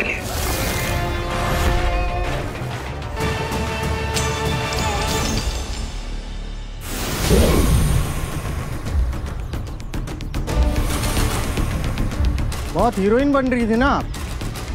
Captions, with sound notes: [suspenseful music playing] [sound effect playing] You were trying to be very brave, right?